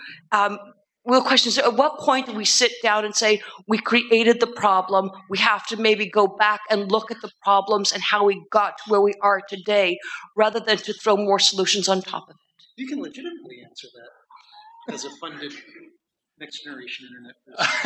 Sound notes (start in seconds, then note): 14.5 laughter